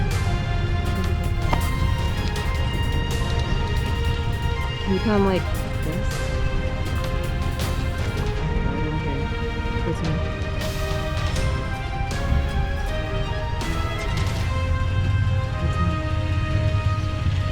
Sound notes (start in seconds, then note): 9.3 engine revving